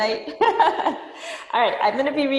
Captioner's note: laughing